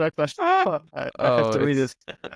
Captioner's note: screams